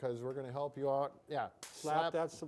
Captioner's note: hands slapping